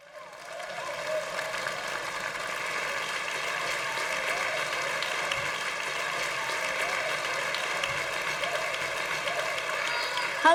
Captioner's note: applause